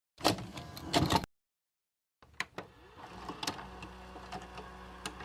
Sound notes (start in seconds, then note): 0.0 video casette sound